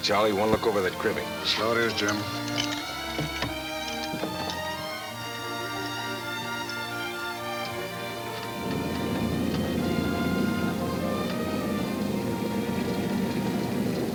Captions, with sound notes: I wanna look over that cribbing. - So it is, Jim. (rattling) (pleasant orchestra music)